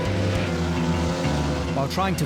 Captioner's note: dramatic music; motor whirring